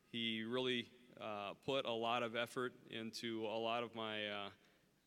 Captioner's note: none